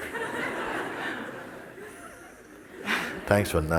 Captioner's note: laughter